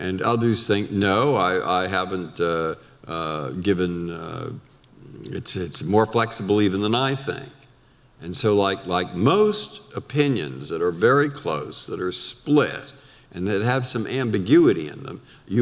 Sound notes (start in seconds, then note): none